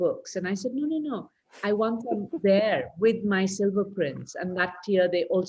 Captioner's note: laughs